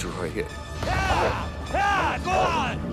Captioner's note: shouting